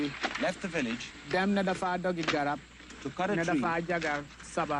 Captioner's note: foreign language; foreign language